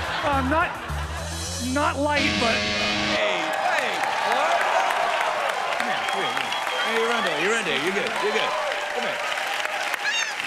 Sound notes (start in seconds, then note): 2.2 buzzer sounds; 2.2 cheers and applause